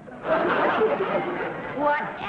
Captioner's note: audience laughing